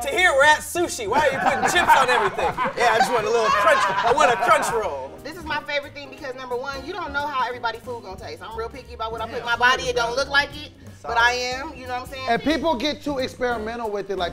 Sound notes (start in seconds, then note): 4.3 laughing